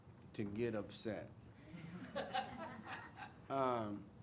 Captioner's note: crowd laughs